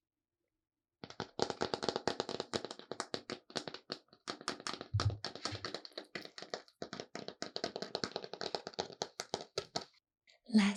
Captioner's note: plastic tapping sounds